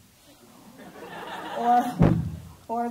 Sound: laughing

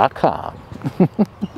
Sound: laughs

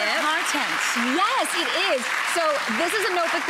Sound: crowd applauding

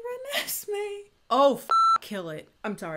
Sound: beep

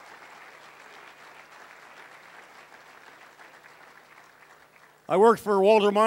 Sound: cheering

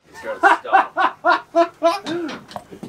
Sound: laughter

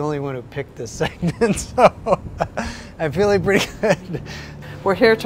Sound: laughs

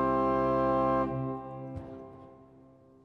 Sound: reverberation

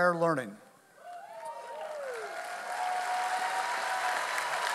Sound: audience applauding

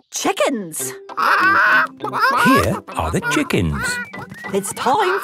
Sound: clucking

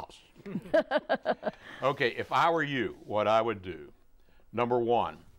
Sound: laughing

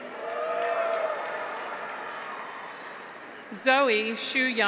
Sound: graduates cheer; audience applauds

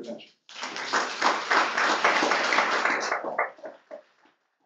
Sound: applause

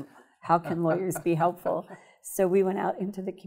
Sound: laughing

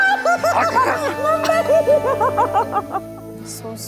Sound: both laughing; screaming

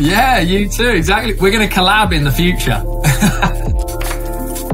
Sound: laughs; upbeat music

